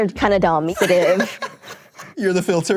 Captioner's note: laughs